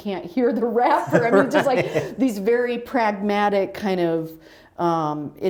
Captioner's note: laughter